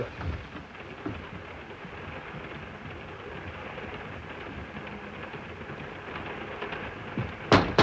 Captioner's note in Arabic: صوت خشخشة القطار; طرق على النافذة